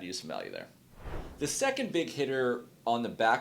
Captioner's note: air swooshes